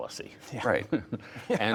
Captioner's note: laughter